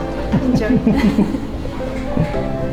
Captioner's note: both chuckling